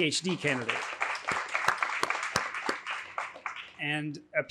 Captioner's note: applause